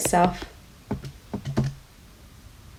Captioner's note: typing on calculator